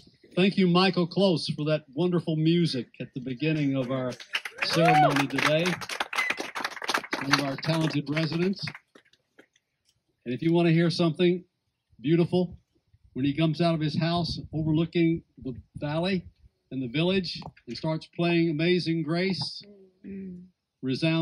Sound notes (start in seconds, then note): 3.5 applause